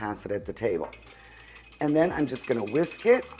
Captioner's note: whisk tapping